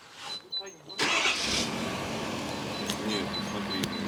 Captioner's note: the sound of running engines